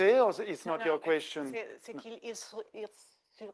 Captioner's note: speaking French; speaking French